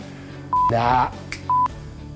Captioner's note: snaps fingers